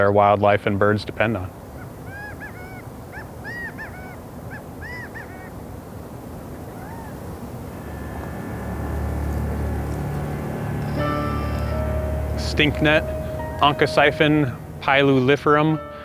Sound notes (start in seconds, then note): 1.6 gambel's quail calling